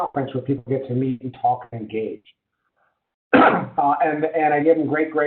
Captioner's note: caughs